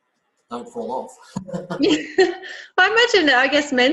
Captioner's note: laughs